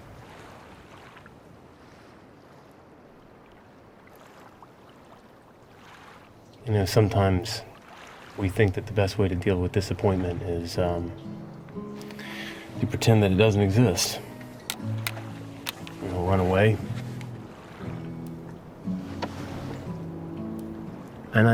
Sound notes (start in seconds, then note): 3.6 waves gently rolling; 15.5 sunglasses clattering